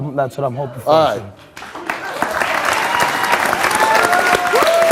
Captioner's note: audience clapping